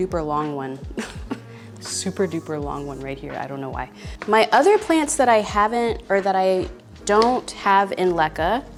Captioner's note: laughs